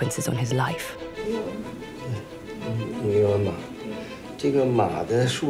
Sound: both speaking Chinese

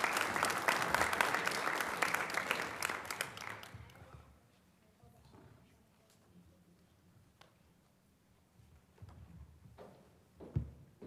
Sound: applause

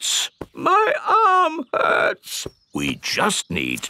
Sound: in teddy's voice; in normal voice

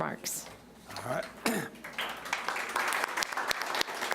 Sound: applauding

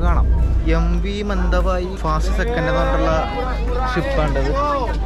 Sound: outdoor ambience sound

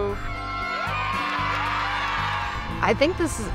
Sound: team cheering

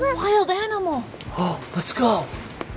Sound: gaspsing

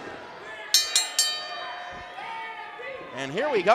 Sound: bell rings

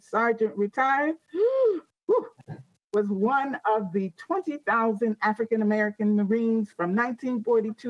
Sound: sighs

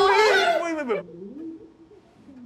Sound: a commotion upstairs

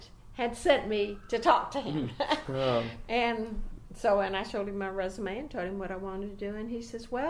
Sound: laughs

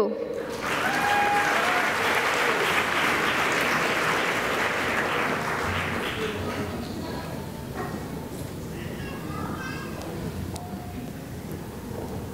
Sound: cheering and applause

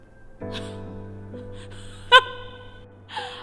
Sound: laughs

